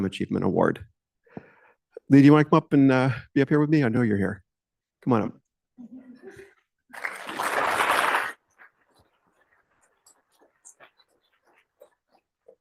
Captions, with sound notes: Achievement Award. Lee, do want to come up and be up here with me? I know you're here. Come on up. [LAUGHTER] [APPLAUSE]